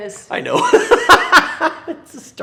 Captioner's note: laughs